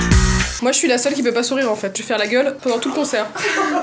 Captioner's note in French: rires